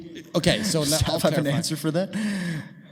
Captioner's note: chuckling